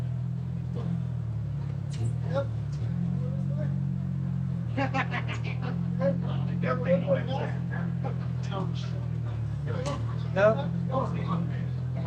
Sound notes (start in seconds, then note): 3.1 laughing